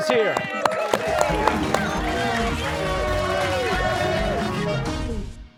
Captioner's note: cheers and applause